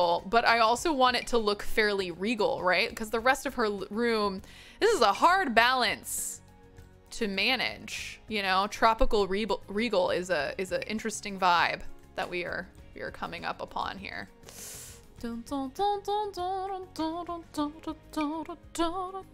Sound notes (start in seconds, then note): 14.4 inhales sharply; 15.3 vocalizing musically